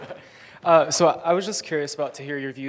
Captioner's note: laughing